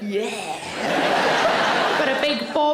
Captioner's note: audience laughing